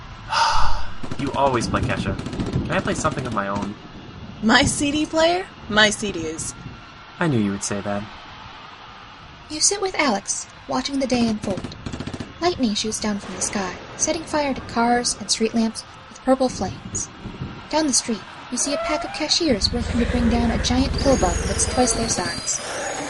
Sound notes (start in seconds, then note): 0.3 Cidro, sighs; 3.8 gunfiring continues; 10.5 screaming, distorted music playing, gunfire; 15.4 sound of lightning striking and fire burning; 21.1 Cashiers growing, cry of a giant bug in distress